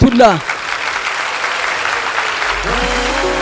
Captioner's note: applause